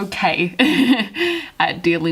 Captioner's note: laughs